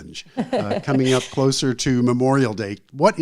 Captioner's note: laughs